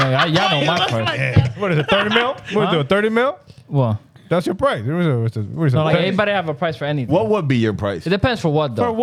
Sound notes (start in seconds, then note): 5.6 speaking In Foreign Language